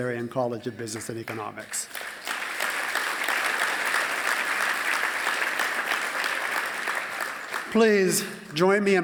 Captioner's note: applause